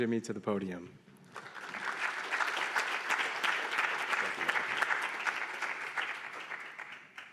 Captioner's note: applause